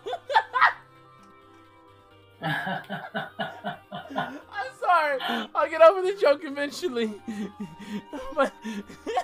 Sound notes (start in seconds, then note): 2.4 nervous laughter???; 7.4 starts laughing again